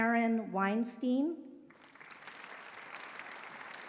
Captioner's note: applause